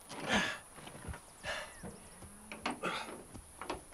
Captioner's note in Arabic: خرخرات